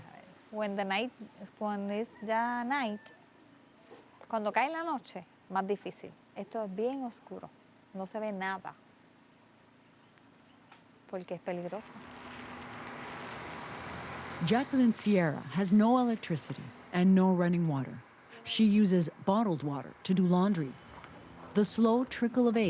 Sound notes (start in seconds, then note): 8.8 speaking spanish